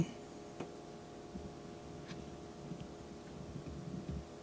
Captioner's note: quiet knock